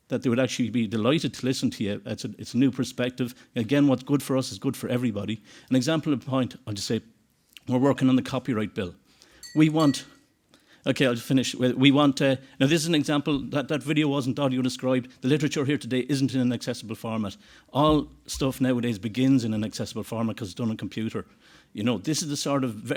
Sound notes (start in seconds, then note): 9.4 ding ding